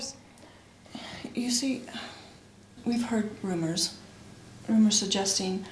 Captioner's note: sighs